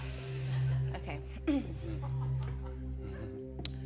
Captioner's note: clears throat